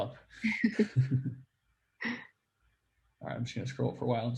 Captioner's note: laughs